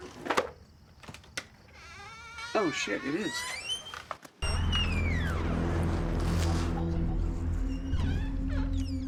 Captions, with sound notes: (door creaks) Oh shit, it is. (door creaks) (dramatic music)